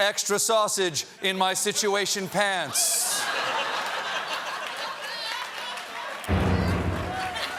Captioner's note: laughter